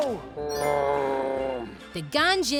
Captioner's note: growling